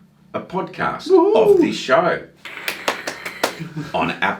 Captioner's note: claps hands